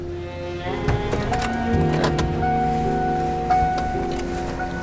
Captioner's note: car alarm blaring